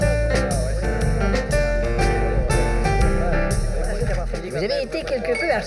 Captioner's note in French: Bruit des conversations